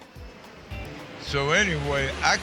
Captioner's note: plane engine roaring